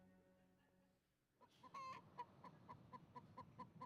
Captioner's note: chicken clucking